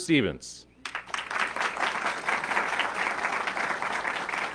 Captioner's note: audience clapping